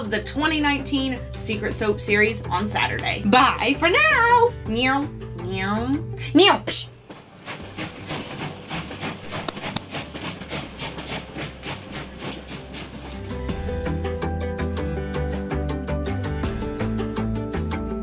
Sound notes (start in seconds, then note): 7.4 train sound; 13.3 light music